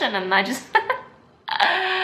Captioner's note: giggles at self